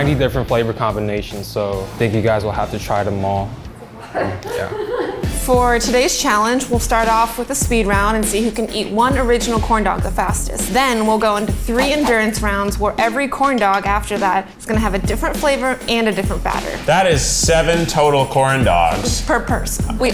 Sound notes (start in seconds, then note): 3.8 laughs